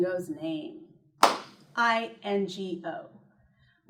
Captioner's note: clap